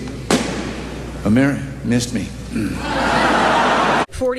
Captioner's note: balloon pops